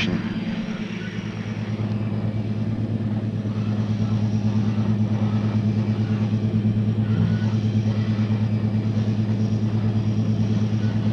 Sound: sound of the train moving

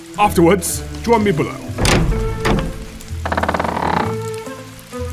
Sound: door opens

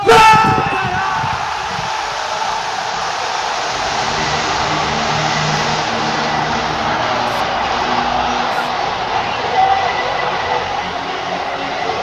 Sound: crowd screaming and celebrating

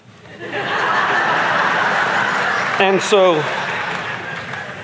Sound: audience laughing

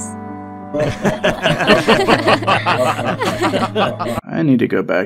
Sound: Benny, Dutch, and the Russians laugh

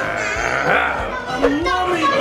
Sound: mummy growling

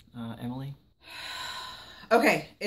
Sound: sigh

